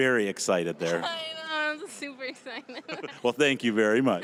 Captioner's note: laughing